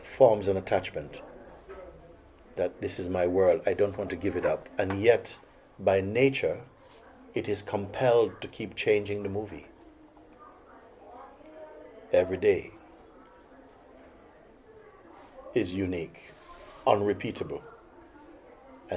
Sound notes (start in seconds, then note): none